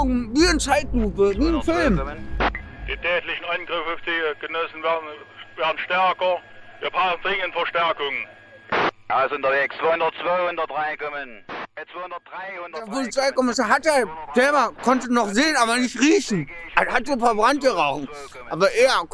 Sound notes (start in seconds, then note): 4.6 police radio